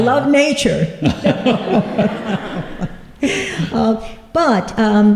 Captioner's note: laughter